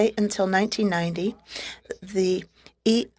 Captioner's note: speaking French